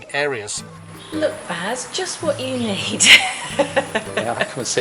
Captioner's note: chuckles